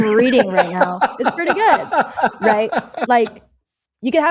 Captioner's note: laughter